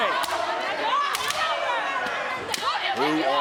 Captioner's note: kendo sticks snapping